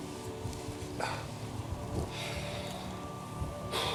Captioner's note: sniffling; sighing